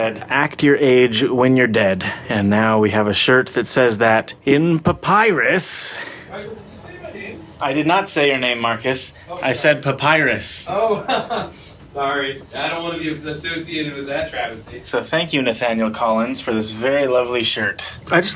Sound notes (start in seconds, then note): 10.7 laughs